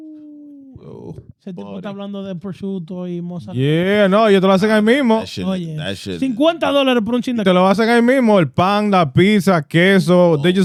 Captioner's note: speaking In Foreign Language